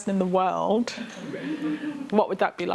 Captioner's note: laughter